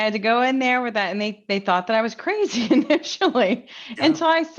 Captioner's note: laughs